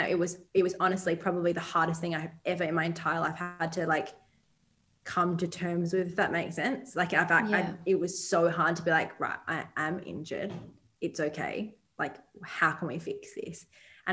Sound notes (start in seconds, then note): none